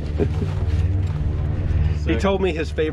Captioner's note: plane roaring